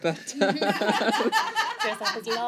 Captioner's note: laughter